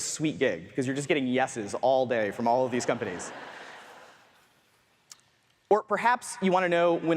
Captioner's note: audience laughs